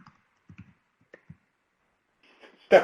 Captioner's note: silence